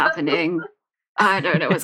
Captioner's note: laughs